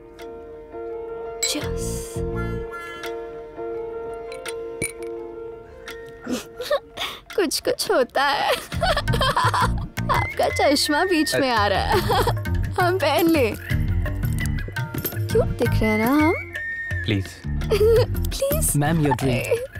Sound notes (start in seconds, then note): 8.4 Laughs